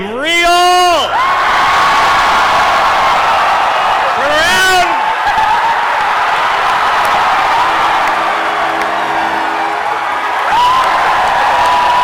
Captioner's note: cheering and chanting "Scanlan"